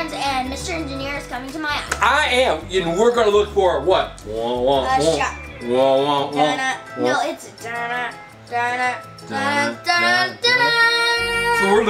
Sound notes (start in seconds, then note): 3.9 humming the "Jaws" theme; 7.9 both hum the "Jaws" theme